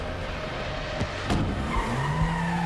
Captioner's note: tires squeal